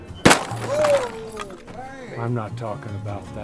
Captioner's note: box smashes